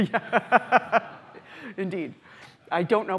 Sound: laughter

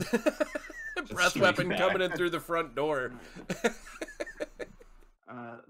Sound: chuckling

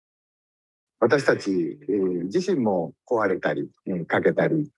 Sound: speaks in Japanese

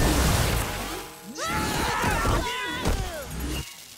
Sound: screaming

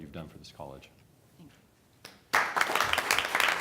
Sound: applause

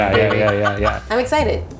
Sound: laughing

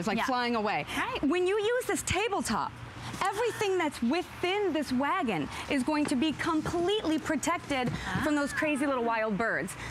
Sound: laughter

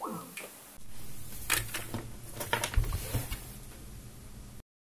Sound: call completion sound; microphone mute

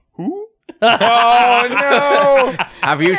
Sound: laughter

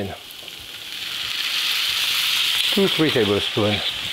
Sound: pan sizzles

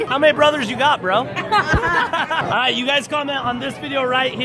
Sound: all laugh

